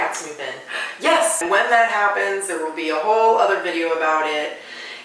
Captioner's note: gasps